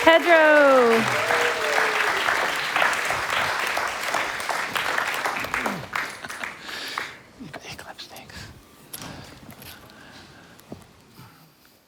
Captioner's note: applause